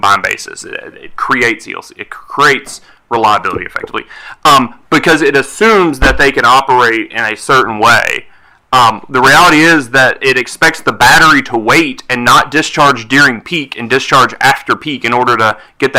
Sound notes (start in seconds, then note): none